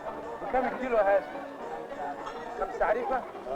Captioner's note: non-english speech